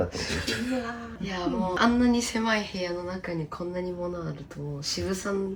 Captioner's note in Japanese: 笑い